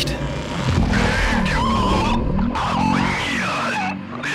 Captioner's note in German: schräge Stimme